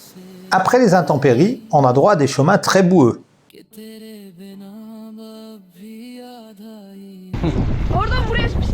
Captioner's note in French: chant